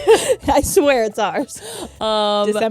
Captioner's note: laughing